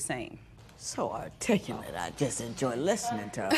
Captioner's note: laughter